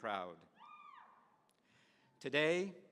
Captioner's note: woman cheering